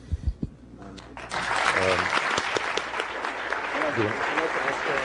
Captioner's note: applause